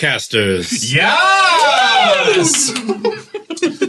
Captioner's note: everyone cheers